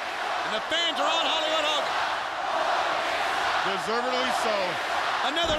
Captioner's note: crowd chatter